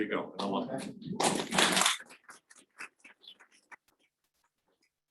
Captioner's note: audience applauding